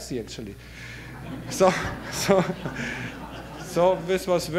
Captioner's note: audience laughter